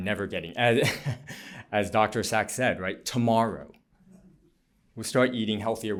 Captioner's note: laughter